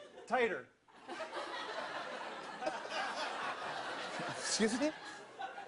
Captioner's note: audience laughter